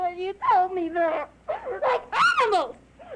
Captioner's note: sobbing